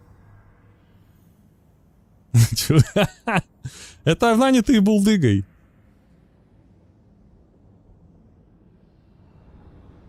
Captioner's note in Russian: смех